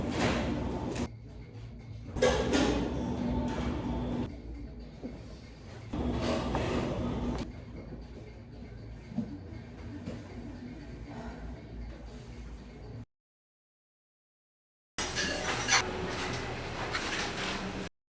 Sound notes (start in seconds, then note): 15.0 restaurant kitchen clanks, bustles